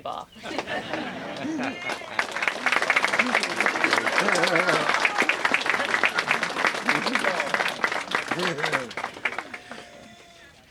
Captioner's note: applause